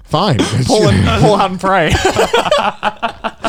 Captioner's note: laughs